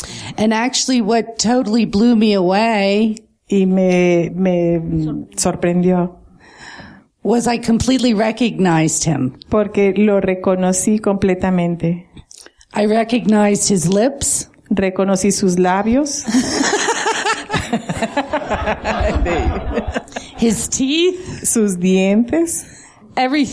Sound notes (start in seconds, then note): 16.2 laughter